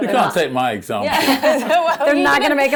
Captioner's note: laughing